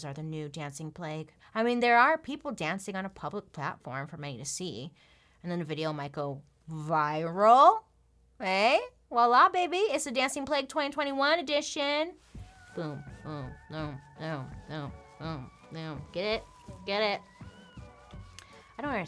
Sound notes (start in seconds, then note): 12.4 dark whimsical music; 12.4 humming